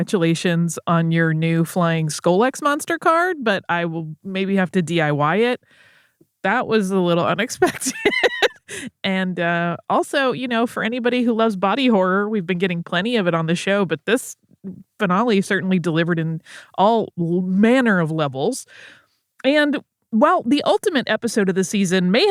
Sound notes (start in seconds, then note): 7.6 laughs